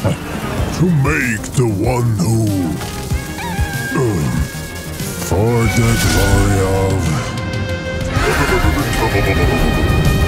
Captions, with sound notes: to make the one who... For the glory of... *glitch*...